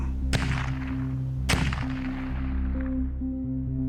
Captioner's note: gun firing